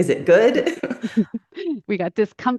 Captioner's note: laughs